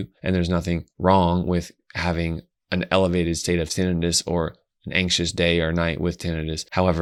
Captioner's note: none